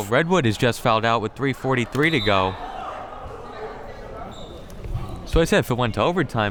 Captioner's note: whistle tweeting